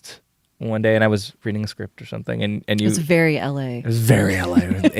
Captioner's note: laughs